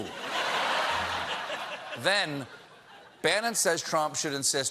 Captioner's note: laughter